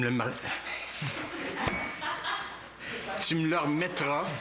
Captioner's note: rires